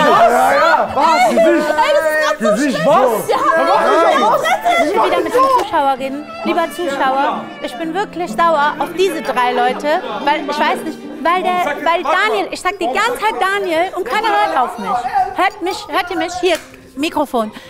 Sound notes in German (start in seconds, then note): 3.8 Stimmengewirr